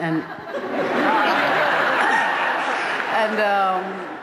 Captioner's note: laughter